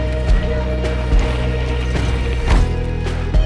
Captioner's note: bike whizz and whoosh past!